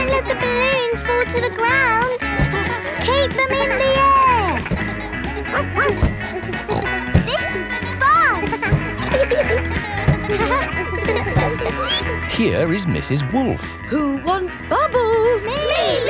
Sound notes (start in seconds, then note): 5.4 snorts; 5.5 barks